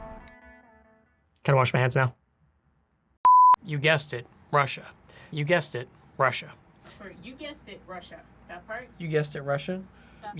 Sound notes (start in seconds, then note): 3.2 screen beeps